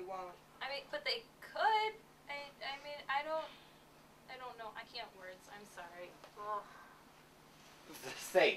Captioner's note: groans